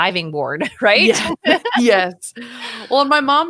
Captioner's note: laughing